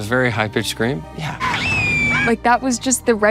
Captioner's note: Caleb screaming